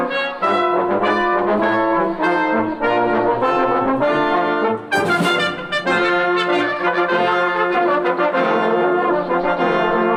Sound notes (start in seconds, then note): none